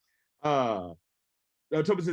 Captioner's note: laughs